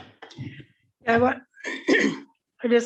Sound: clears throat

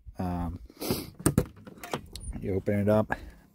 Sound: door clunks

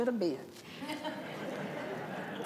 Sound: laughter

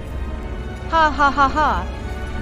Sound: laughs maliciously

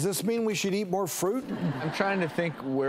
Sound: laughter

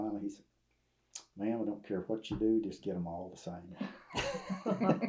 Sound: laughter

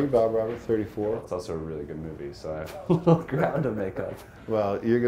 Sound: laughs

